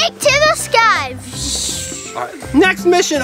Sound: whooshing

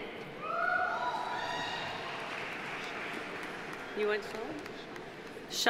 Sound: audience cheering; audience applauding

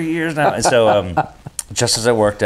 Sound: both laughing

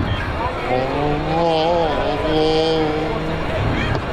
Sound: moaning

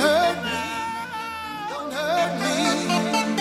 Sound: screams

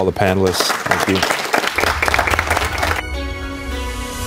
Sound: applause

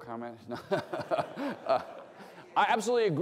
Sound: laughter

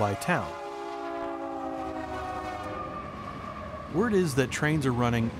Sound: train passing

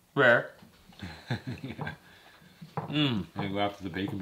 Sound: laughs

